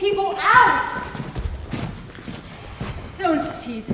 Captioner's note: footsteps exiting with keys jingling